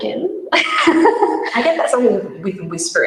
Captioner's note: laughs